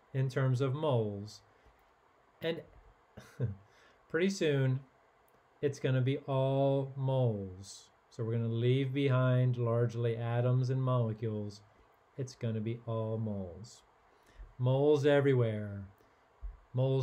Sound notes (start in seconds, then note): 3.2 chuckles